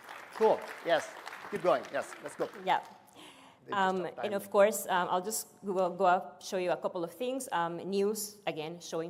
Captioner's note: applause